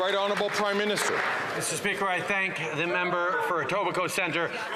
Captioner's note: some Applause